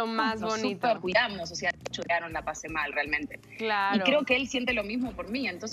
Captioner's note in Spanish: risas